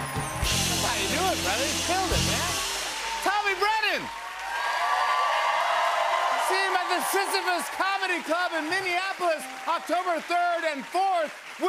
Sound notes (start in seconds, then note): 4.5 cheers and applause